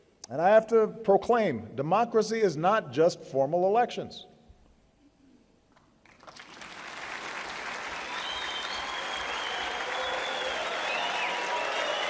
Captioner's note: applause